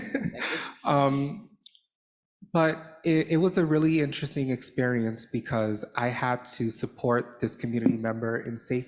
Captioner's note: laughter